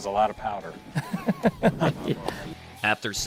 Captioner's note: laughing